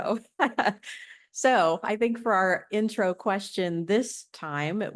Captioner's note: laughter